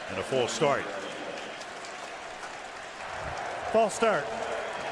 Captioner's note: pa announcement